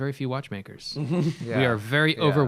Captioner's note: laughter